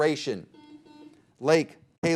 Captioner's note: buzzer beeping